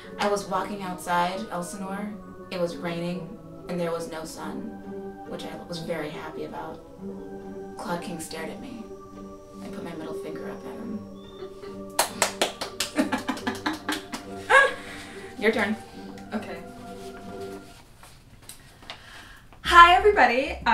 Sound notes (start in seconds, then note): 11.8 Hamlet claps and they both laugh; 19.6 peppy music